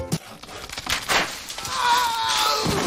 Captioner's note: sawing - Branch Snaps